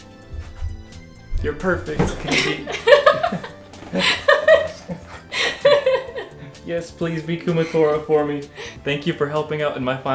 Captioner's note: knocks over keychain, laughs